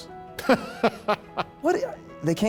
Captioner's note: laughs